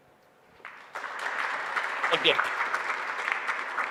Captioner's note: audience applauding